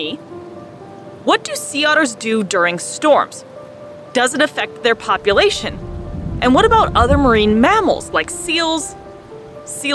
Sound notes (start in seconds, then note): 0.2 background music; 3.3 background music; 5.2 gentle thunder sound; 5.8 background music; 8.9 background music